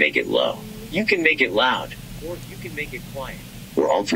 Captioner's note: quietly